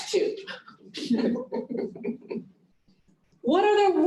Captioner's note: laughter